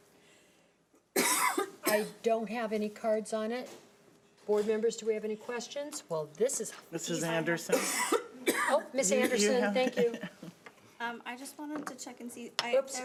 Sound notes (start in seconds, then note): 9.9 chuckles